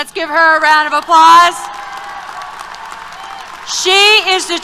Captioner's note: applause